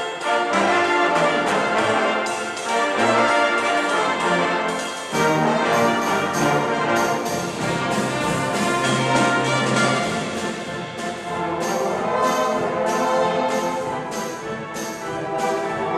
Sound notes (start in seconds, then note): 2.7 applause